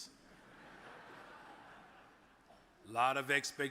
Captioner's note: audience laughs